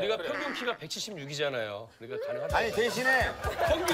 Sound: laughs

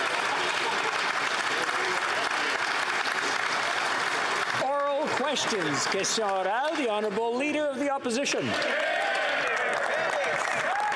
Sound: applause

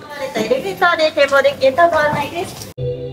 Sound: staff speaks in japanese

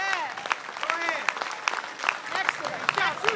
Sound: applause

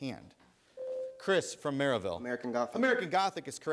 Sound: ding

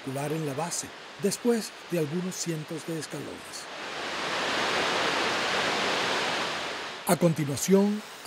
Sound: water falls

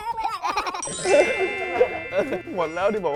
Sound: laughs

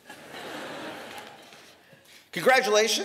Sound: laughter

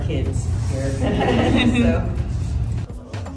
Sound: all laughing; high energy reggae music

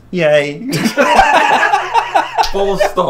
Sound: laughter

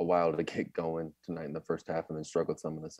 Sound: chuckles

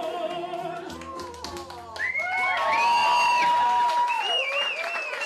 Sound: cheering

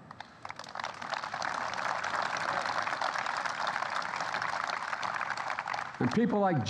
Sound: applause

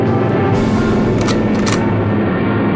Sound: gun cocking

